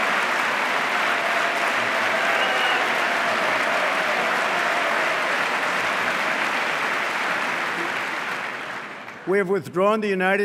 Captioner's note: applause